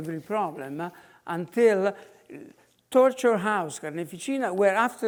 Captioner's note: in foreign language